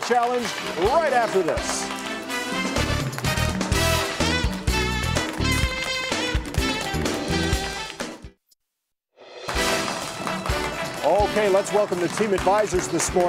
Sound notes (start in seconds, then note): 1.5 crowd clapping; 3.5 upbeat music; 9.3 upbeat music